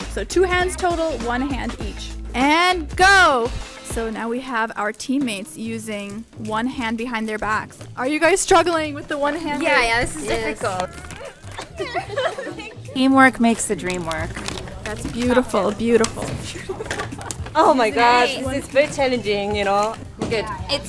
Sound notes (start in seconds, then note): 10.7 both laughing